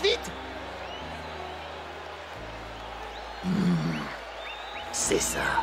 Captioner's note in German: beifall